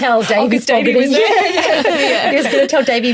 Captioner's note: everyone laughs